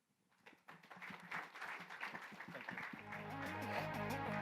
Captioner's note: applause; electronic music